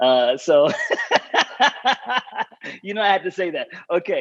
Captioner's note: laughs